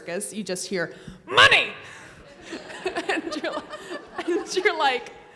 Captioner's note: laughs